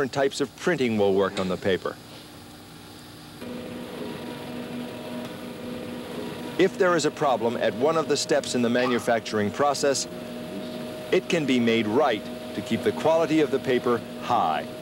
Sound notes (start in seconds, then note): 3.4 machinery running